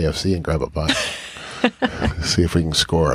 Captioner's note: chuckles